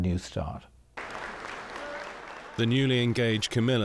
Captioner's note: crowd applauding